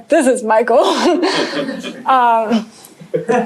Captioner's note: laughter